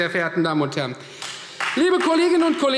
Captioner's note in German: Beifall Freie Demokraten